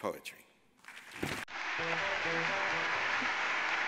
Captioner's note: audience applauds